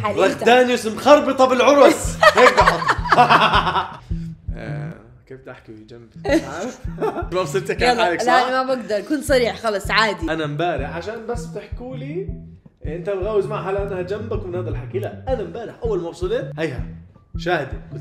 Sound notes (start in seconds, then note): 1.8 laughs wickedly; 1.9 laughs; 6.2 laughs